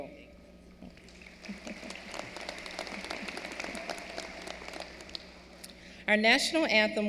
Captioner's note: applause